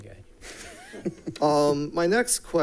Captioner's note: people laughing